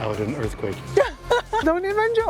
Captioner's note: laughs